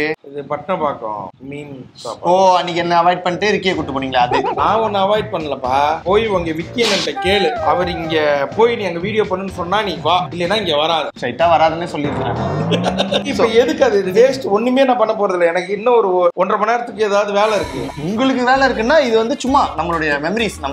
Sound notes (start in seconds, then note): 12.6 laughs